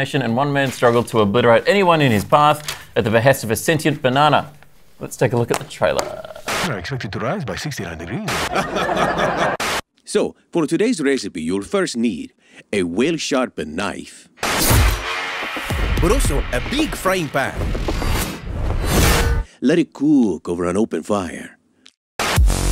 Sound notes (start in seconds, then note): 8.3 laughter; 9.5 static; 14.4 rock music